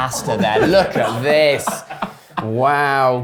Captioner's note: laughing